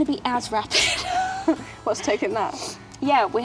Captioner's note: laughs